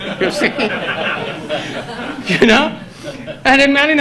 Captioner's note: audience laughs